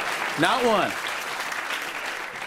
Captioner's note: applause